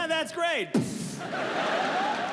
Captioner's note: mimics gunshot; audience laughs